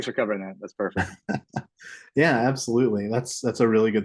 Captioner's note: chuckles